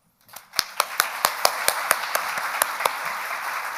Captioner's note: crowd clapping